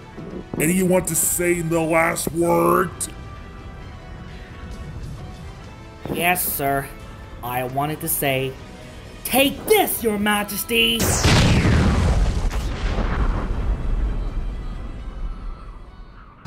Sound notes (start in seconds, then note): 11.0 gun shot; 11.0 explosion